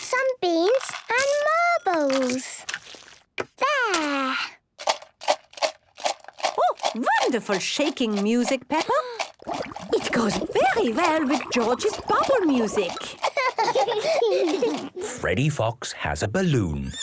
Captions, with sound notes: some beans, and marbles! There! - (objects shaking) - Oh! Wonderful shaking music, Peppa! - (shaker shaking, water bubbling) - It goes very well with George's bubble music. - (both laughing) - Freddy Fox has a balloon!